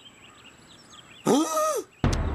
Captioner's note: gasping